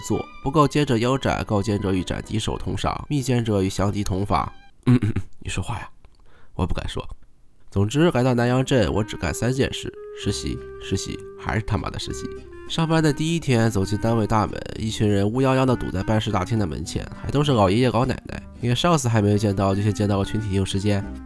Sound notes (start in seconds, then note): 4.8 coughing